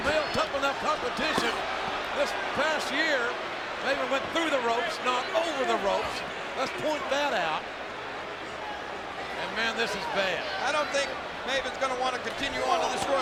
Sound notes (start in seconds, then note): 8.8 crowd jeers